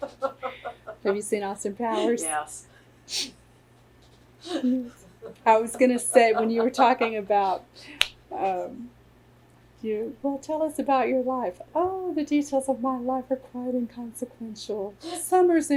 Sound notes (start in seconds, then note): 4.4 laughter